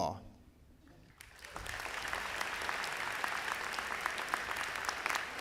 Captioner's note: audience applauding